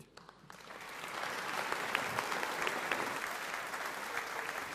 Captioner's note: audience applauding